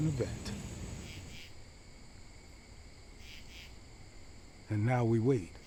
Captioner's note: insects chirping